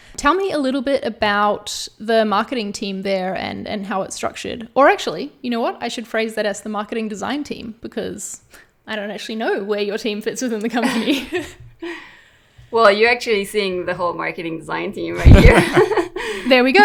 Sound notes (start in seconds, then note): 10.8 laughs; 15.2 all laugh